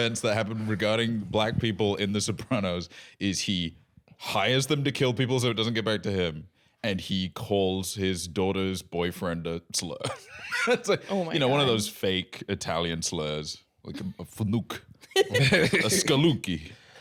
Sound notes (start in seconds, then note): 10.1 laughs